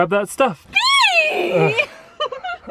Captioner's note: shrieks